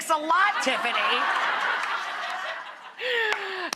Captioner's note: audience laughing